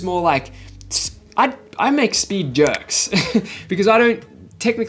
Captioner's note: laughs